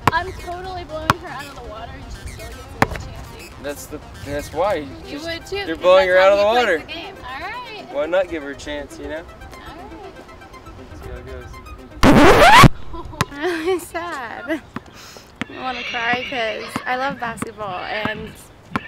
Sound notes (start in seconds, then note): 15.4 horse neighing